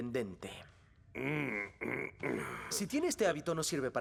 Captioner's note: grumbling, clearing throat